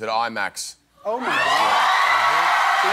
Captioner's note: applause